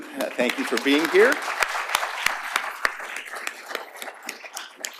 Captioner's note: applause